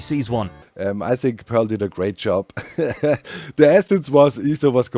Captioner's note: chuckles